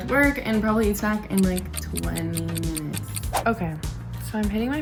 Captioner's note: clock ticking